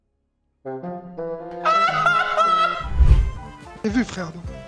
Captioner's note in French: Rires